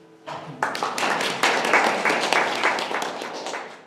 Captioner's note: audience applause